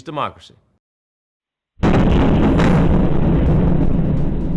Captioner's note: bomb exploding